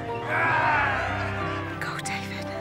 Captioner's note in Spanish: gritos